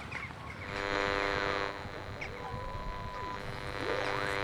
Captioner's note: radio tuning sound